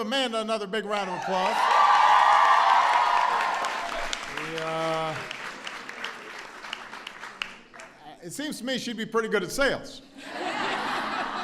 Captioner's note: applause; laughter